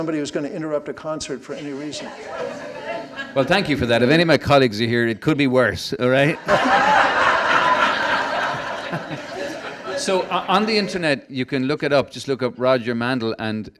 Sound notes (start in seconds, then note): 6.4 laughing